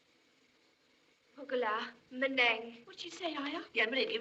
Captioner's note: speaking Native Language